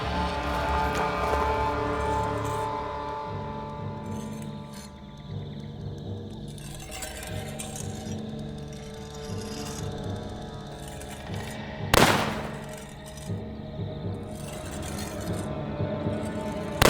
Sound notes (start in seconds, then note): 4.2 ominous music; 8.5 blade slicing; 11.9 gun firing